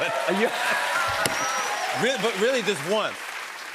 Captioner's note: cheers and applause